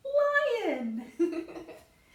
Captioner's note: laughs